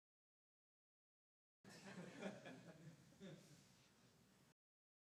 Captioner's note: audience laughs